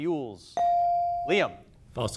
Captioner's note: bell dings